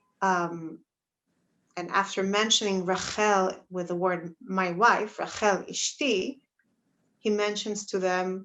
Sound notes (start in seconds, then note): 5.4 Hebrew